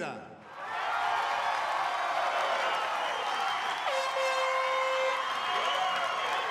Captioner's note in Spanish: aplausos y exclamaciones